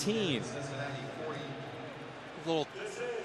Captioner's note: pa announcement